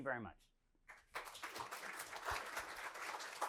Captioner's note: applause